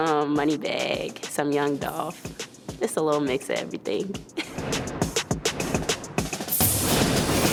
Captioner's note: laughter